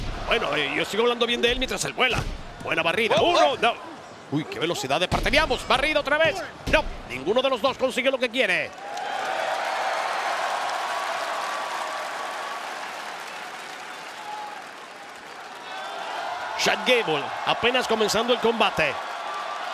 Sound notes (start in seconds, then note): 8.7 applause